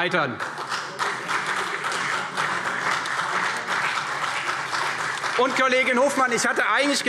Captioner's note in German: Beifall CDU